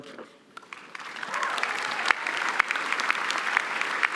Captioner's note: applause